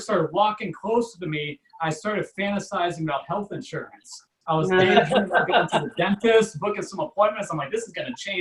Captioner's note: audience Laughs